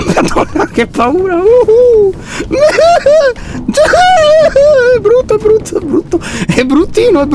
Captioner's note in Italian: piagnucola spaventato